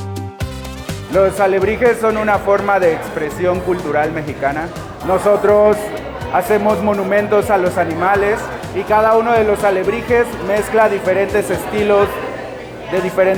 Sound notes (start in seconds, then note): 1.1 speaking Spanish